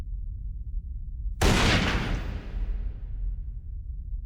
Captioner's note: gun blast